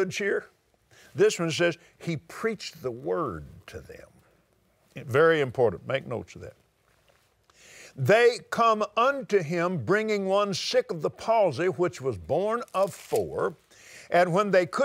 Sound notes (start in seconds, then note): none